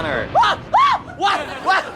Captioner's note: screams